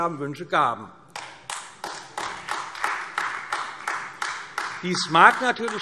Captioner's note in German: Beifall AfD